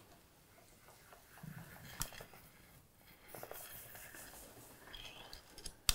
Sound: soft tapping; soft swishing & squishing

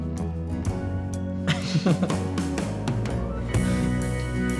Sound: laughter

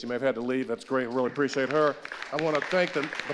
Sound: audience applauding

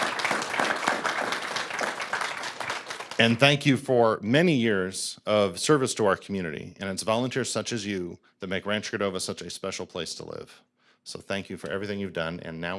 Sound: applause

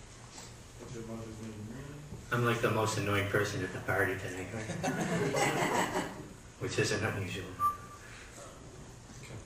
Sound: laughter

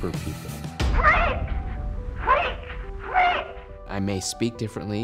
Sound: yelling

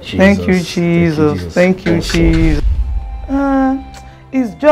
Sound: none

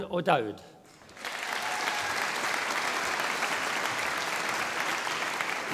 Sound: audience applauding

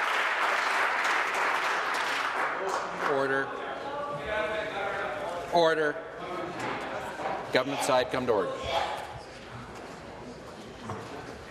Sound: some Applause

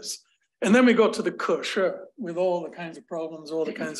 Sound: speaking another language

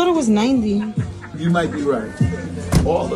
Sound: people laughing

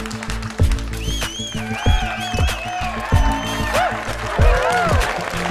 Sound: clapping; cheering

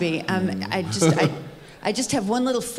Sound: chuckles

